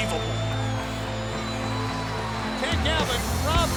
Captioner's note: crowd cheering